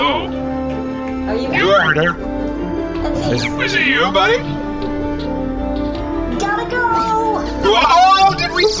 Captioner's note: yelling